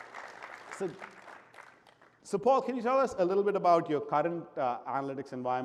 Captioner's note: applause